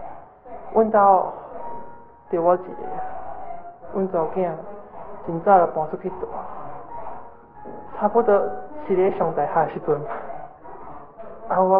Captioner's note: Taiwanese